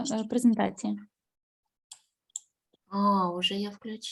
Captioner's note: speaking Ukrainian